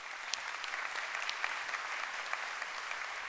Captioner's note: applause